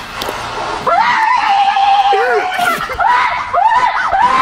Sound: screams

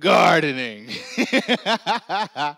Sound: laughs

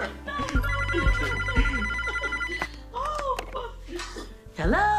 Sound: phone ringing

